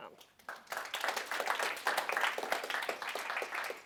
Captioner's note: applause